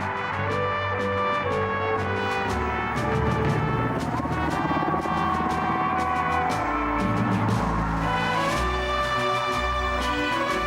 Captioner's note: applause